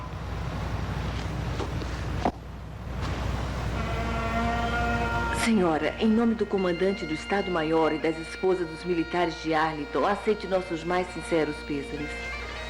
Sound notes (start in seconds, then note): 1.5 clicks Heels